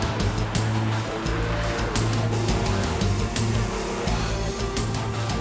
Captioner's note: car engine revving; upbeat suspenseful music